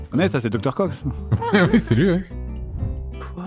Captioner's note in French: Petit rire